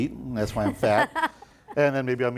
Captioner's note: laughing